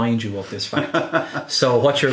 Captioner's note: laughing